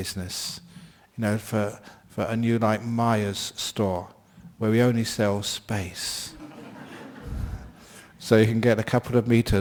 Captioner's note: laughter